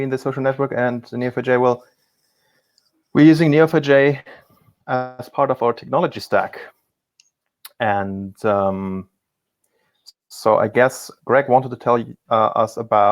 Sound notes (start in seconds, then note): none